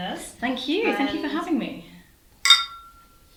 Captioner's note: clink